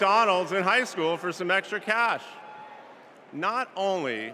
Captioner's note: cheers and applause